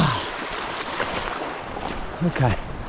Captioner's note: groans; water splashing